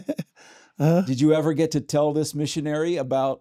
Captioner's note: laughs